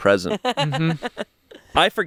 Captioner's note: laughs